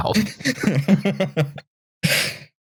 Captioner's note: laughs